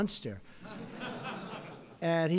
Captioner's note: laughter